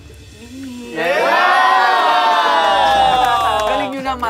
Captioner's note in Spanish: campistas animando